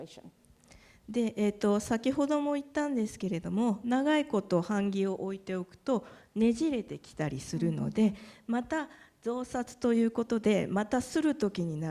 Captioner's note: speaking japanese